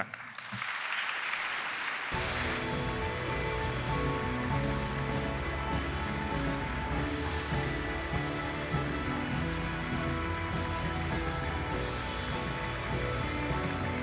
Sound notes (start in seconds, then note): 0.1 applause